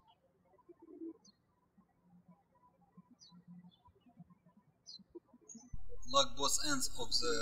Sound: birds chirping

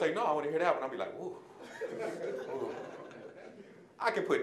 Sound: audience laughing

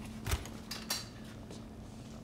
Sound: refrigerator door opens

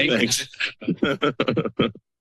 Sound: laughter

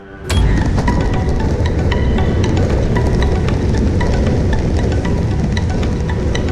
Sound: nervous music; rustling

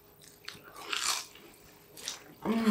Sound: crunch

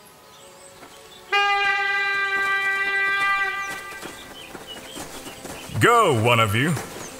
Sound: A hunting horn blows

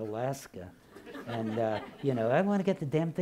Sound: laughing

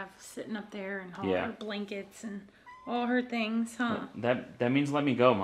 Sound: cat meows

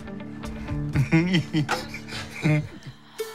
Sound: laughing

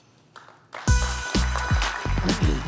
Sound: applause

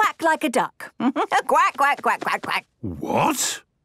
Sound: quacks

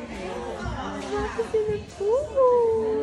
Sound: distant chatter

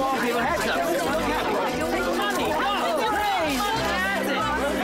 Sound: reporters clamoring

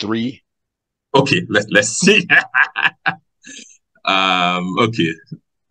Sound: laughs

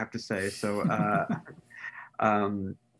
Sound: laughs

